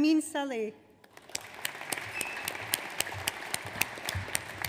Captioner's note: audience applauds